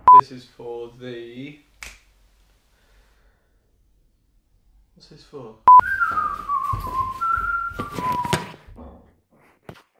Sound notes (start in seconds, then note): 5.7 whistling